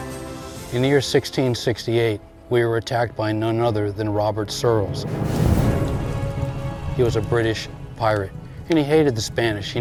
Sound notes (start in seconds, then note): 4.5 fire burning sounds; 4.9 ominous music